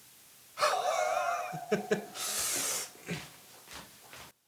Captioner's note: laughs